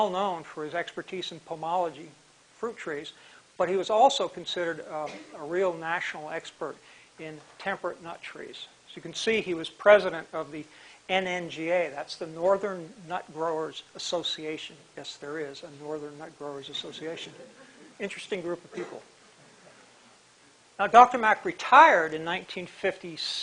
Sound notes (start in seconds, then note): 17.4 chuckle